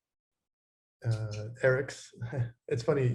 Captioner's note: chuckles